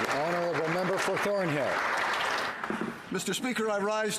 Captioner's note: applause